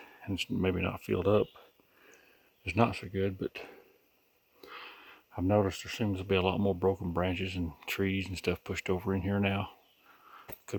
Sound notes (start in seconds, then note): none